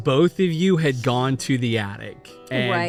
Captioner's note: groaning